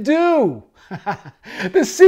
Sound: laughing

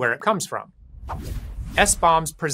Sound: screen whooshing

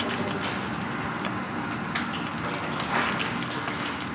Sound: rippling noises

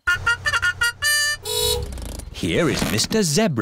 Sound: fanfare; horn honks

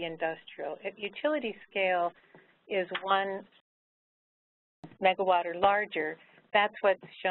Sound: microphone moving

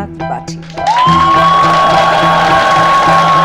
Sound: all hooting, clapping

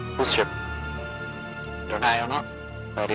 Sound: on the radio

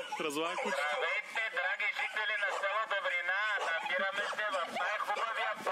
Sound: Florian over megaphone

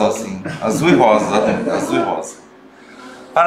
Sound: laughter

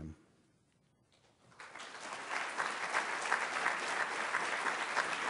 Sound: applause

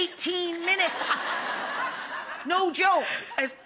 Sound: audience laughs

